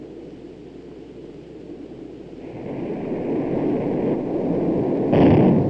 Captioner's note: jet engine sounds